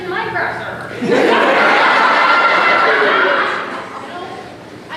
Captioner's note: audience laughter